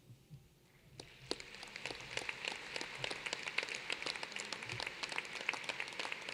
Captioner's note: applause